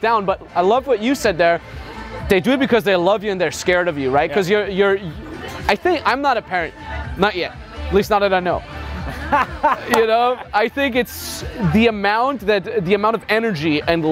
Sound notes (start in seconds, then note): 9.0 laughs